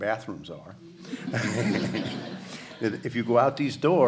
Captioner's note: audience laughter